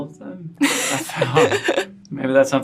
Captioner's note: laughs